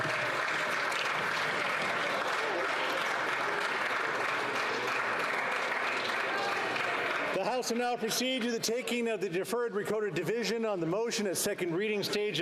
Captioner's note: applause